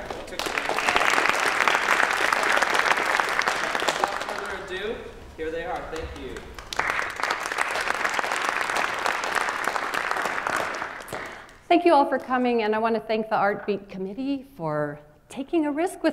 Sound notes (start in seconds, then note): 0.0 applause